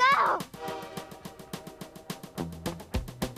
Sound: train whistles

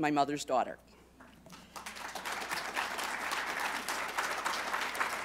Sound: applause

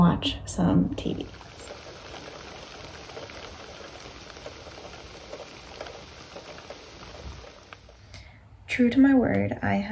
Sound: rain sounds

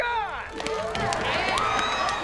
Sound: cheering

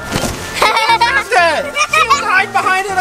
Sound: laughs

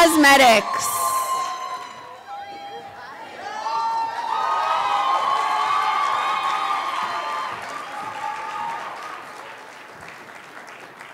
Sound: crowd cheering

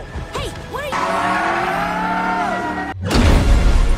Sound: sonic yelling

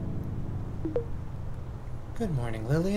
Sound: system startup sound; soft chime

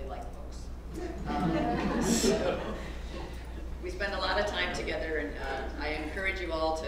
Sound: laugh

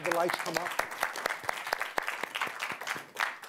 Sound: applause

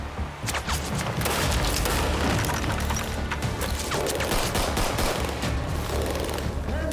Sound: dramatic music; guns banging

